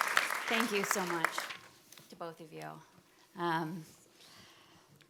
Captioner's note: audience applauding